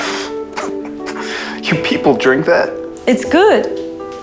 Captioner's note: coughing